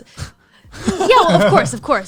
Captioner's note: laughs